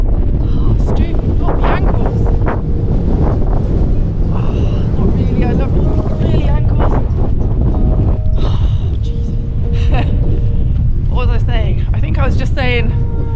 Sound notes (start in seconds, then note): 2.8 wind; 7.5 wind